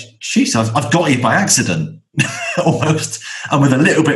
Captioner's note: laughs